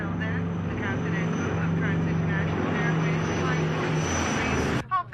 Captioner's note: roar of jet engine